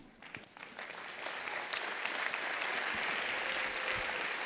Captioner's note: applause